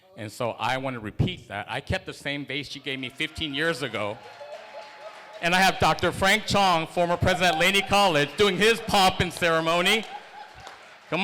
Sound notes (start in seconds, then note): 4.1 cheering